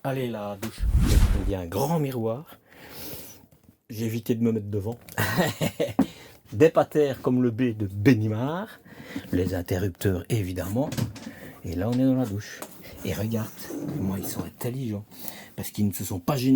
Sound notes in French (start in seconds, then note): 5.2 rires